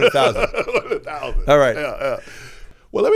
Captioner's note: laughing